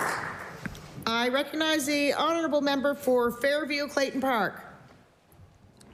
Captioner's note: applause